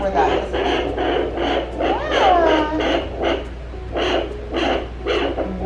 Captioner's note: baby cooing; sonogram static